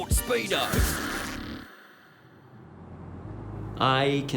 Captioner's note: TV malfunctioning noise